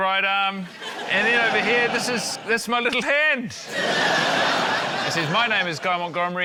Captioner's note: laughter